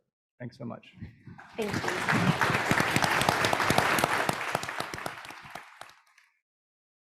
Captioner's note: applause